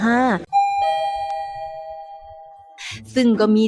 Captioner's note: sound of the elevator